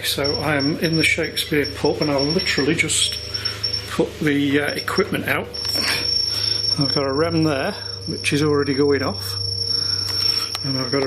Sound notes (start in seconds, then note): 6.1 machine beeping